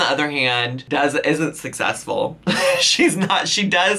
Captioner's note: laughs